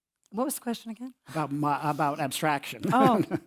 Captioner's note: laugh